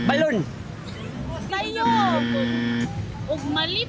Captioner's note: buzzer blares